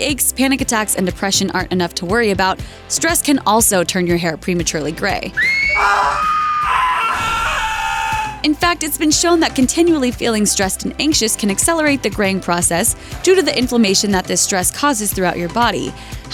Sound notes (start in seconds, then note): 5.3 screams!